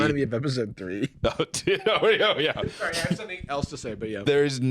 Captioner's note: laughs